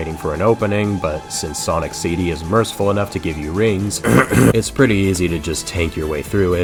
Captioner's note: ahem